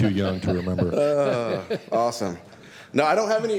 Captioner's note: laughter